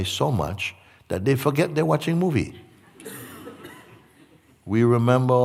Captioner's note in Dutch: gelach